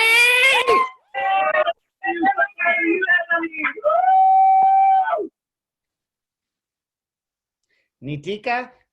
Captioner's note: cheering